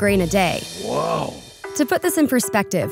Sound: voiceover

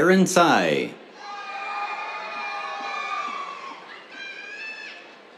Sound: cheers

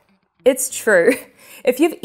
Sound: chuckling

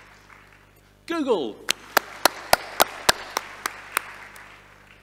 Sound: audience applauding

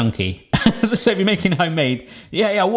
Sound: laughing

